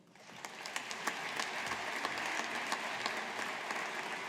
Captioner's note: audience applauding